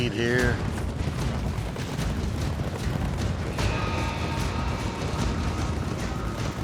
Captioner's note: fast hoofbeats